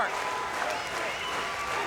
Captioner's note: crowd cheering